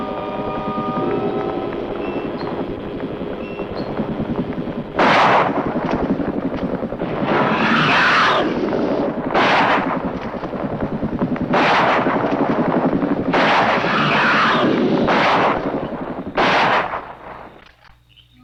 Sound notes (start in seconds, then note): 5.2 gunshot; 7.8 screeching